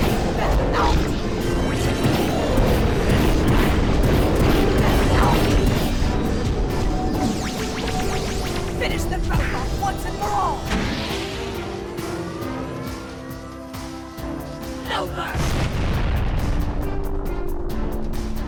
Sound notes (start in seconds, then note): none